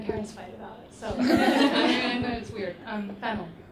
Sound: audience laughs

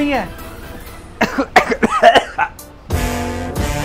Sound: coughing

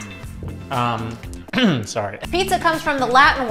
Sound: clears throat

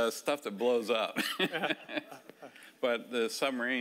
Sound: laughing

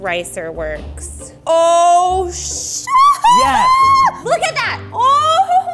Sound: shouts

